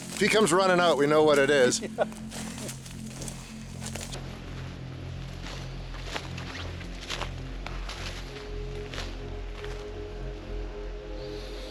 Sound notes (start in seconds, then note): 1.6 chuckles